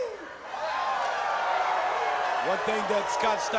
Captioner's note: audience cheering